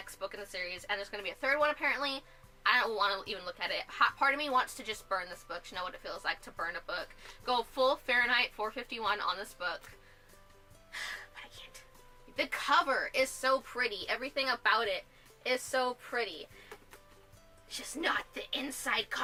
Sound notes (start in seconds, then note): 10.3 whispers; 10.9 sigh